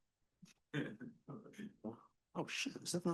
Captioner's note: person murmurs